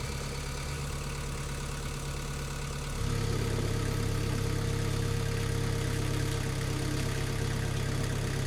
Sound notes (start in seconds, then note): 3.2 machine idling